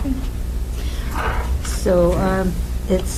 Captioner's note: woman mumbling